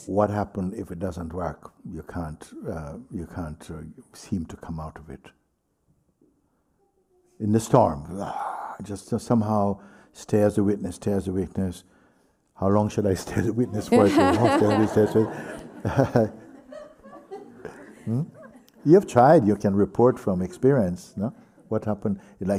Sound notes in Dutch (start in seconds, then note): 16.6 lacht; 17.2 gelach